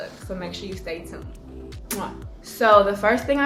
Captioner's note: kiss